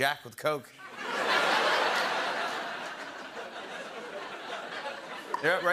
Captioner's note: laughter